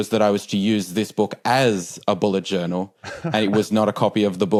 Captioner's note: chuckles